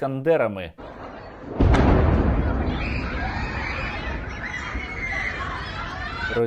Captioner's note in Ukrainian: вибух, дитячий крик